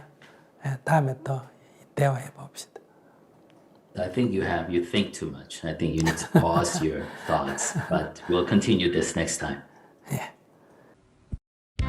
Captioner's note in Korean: 웃음